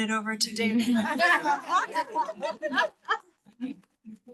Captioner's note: all laugh